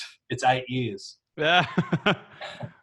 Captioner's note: laughs